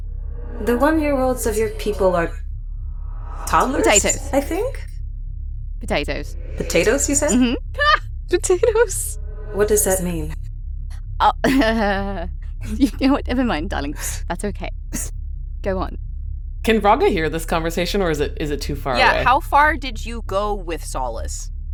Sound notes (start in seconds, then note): 8.3 laughs; 12.6 chuckles